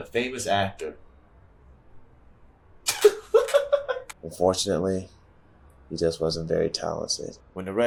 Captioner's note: laugh